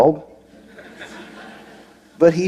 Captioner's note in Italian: Risate